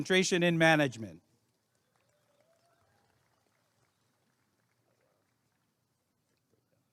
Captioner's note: applause and cheering